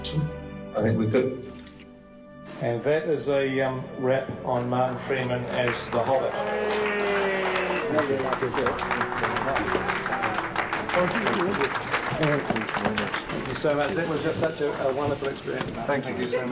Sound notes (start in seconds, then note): 9.8 crew applauding